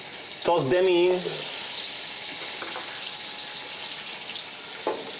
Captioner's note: oil sizzling